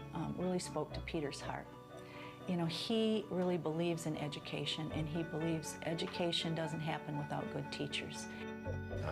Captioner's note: none